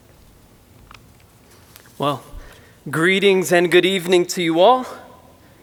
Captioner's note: none